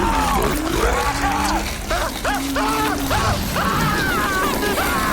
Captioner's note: screams